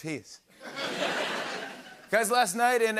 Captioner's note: laughter